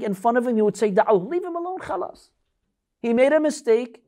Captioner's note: Arabic